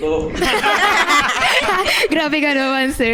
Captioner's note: laugh